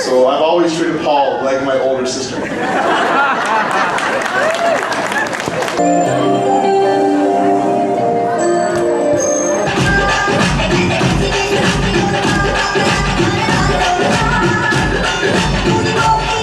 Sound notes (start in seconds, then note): 2.3 laughing, applause; 10.1 indian music